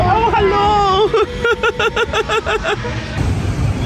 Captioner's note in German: lacht